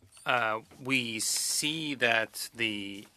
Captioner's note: speaking French